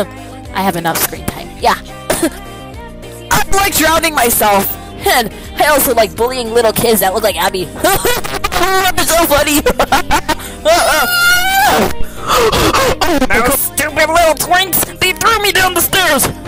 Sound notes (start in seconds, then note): 2.0 cute cough; 11.8 angy breathing